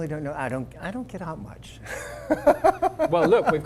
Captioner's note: laugh